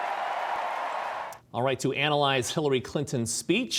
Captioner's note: cheers and applause